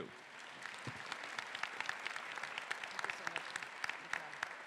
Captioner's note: faculty and audience applauding